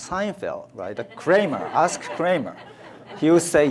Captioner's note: audience laughs